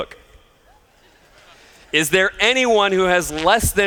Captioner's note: laughter